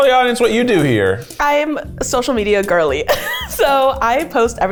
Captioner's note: laughs